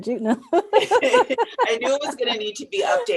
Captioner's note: laughter